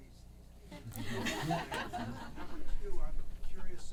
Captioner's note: audience laughing